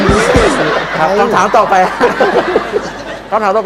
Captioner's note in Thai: เสียงหัวเราะ